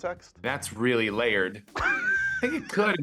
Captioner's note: laughing